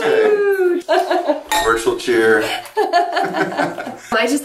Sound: laughs; laughter

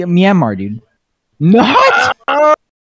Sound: aagghhhhh

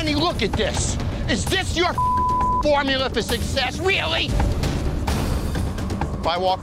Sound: beep

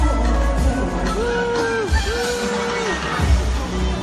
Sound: cheering

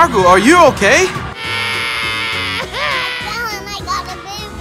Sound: cries

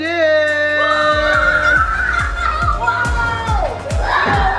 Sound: screaming

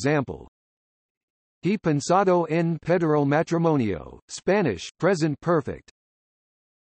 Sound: Spanish

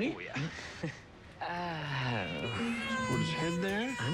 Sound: crying

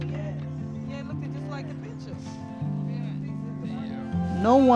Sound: indistinct chatter

